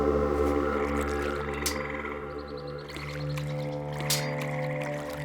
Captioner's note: birds chirping